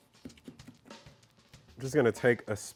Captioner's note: knife tapping board